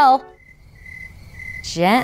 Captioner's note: crickets chirping